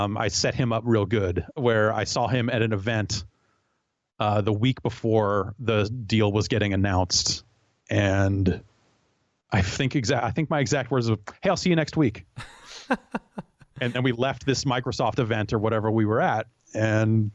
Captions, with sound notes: I set him up real good where I saw him at an event the week before the deal was getting announced and I think my exact words were, hey I'll see you next week. (laughs) And we left this Microsoft event or whatever we were at and.